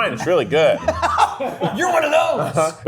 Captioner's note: laughs